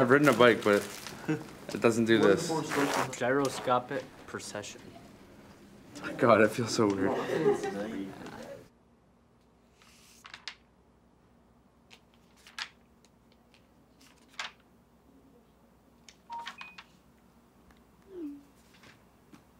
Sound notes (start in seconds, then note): 9.7 pages flick; 16.2 phone beeps